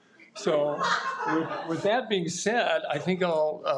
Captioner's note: audience laughs